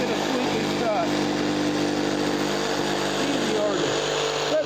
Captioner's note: saw whirring